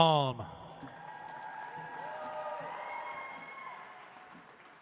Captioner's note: audience applauds